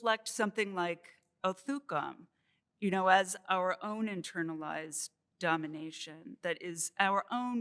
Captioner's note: non-english